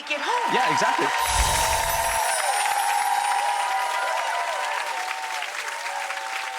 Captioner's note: audience clapping